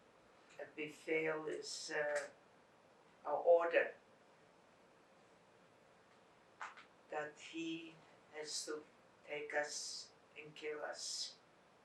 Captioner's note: non-english